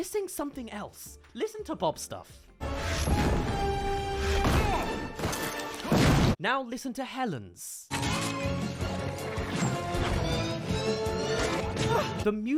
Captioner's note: rocks thrown